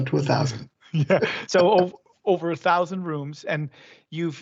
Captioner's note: both laugh